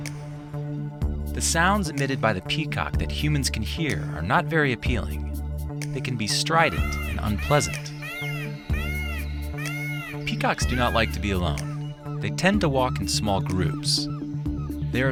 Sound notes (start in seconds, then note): 8.0 peacock cawing